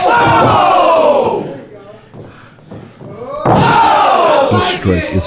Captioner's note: audience cheering